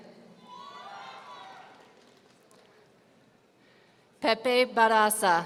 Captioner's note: audience cheering